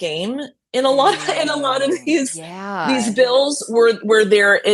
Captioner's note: laughing